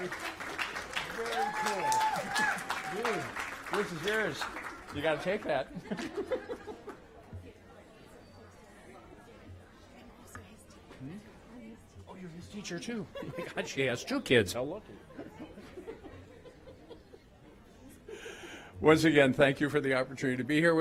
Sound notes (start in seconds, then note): 5.6 applause